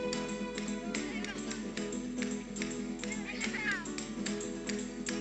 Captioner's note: distant chatter